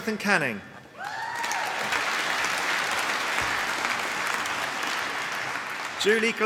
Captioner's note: applause